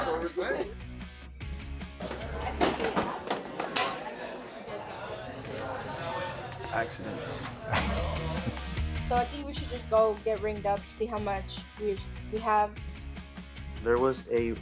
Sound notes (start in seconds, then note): 2.1 exciting music; 4.0 objects clatter; 7.7 exciting music